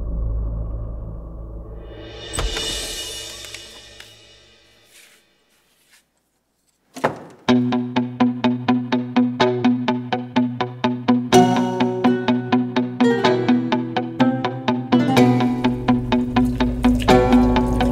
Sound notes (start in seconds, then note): 2.1 door opens; 6.9 door closes